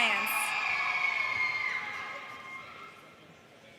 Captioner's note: audience cheers